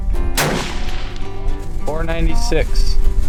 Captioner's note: gun fires